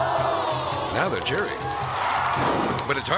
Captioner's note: audience cheering; audience oohs